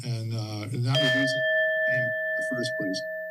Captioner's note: bell rings